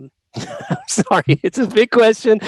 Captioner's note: laughing